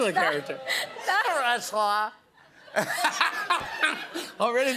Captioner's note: laughs